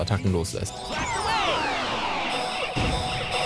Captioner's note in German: Gamegeräusche